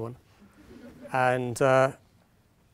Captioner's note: audience laughing